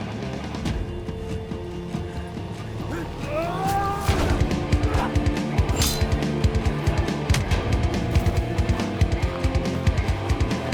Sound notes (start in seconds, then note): 2.8 both moaning; 5.6 swords clanging; 7.2 dramatic music